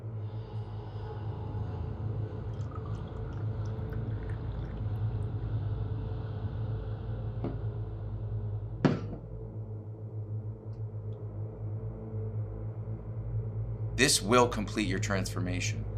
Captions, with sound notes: (liquid sloshing) (jug thuds) This will complete your transformation.